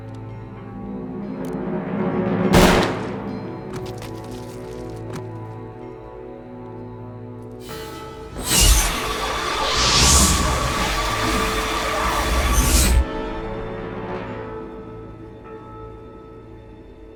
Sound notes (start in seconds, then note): 2.5 gunshot